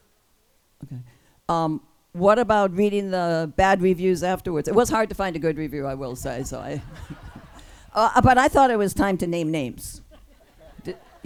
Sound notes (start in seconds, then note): 6.7 laughs; 6.8 group laughs